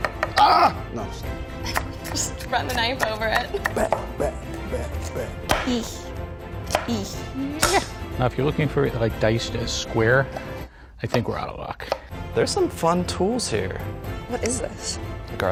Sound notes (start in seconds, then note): 0.4 screams